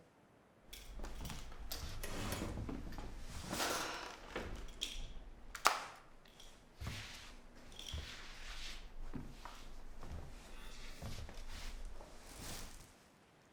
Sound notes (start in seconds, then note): 2.1 chair scrapes; 8.2 Claire's feet shuffle